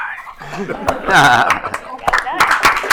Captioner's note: applause